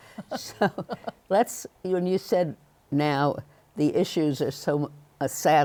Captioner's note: laughs